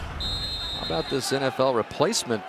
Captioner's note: whistle